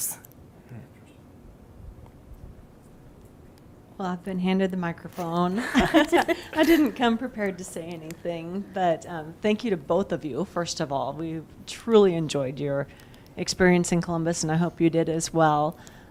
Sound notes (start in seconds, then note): 5.2 chuckling